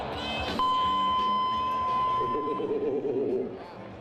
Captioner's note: siren beeps